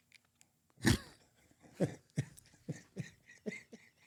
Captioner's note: chuckling